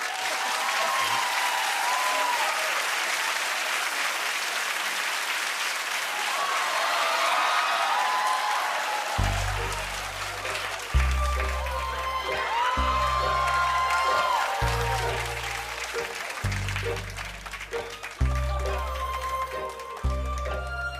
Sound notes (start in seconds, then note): 0.3 cheers and applause; 6.2 audience cheers